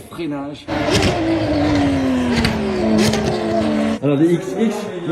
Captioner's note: motor roaring